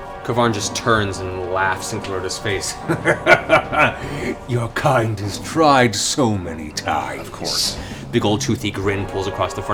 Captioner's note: laughs